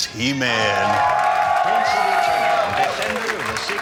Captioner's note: crowd cheering